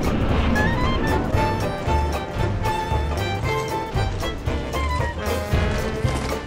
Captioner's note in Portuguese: passos